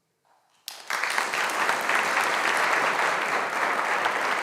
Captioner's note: audience applauding